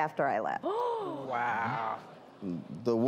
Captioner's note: woman gasps